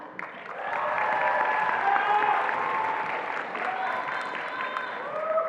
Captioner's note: attendees applauding and cheering